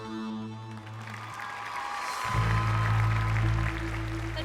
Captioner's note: applause